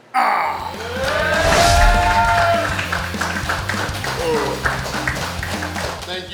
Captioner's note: cheering & Clapping